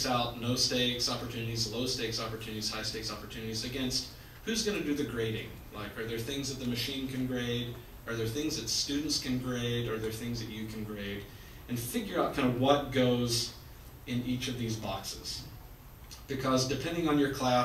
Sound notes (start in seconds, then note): none